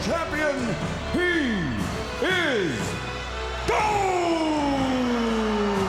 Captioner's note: audience cheering